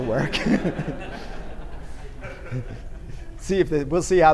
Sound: laughter

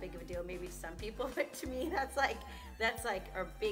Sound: laughs

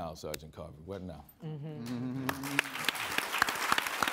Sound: audience applauding

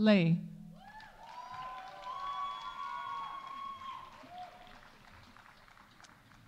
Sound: audience cheering; audience applauding

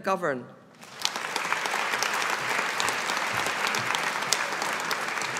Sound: audience applauding

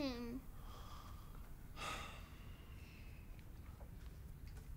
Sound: sighs

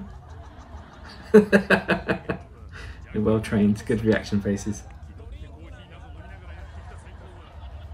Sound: cackles at trauma

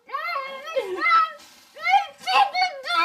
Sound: whimpering

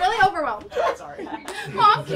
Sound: laughing

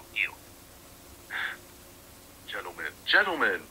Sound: laughs

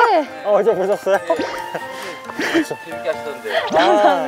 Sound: exhale

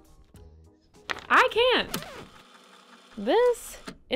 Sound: record scratch, tape rewind

